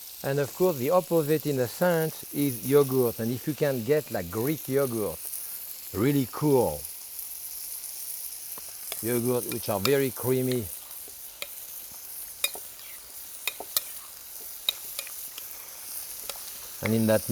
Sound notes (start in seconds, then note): 9.4 pan sizzling; 9.4 spoon clinking